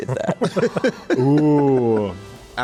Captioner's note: laughter